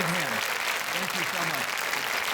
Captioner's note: audience applauding